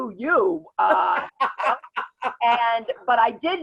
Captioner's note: laughs